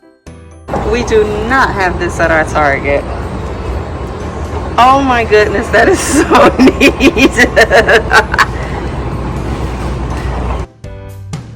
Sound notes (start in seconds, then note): 5.6 laughs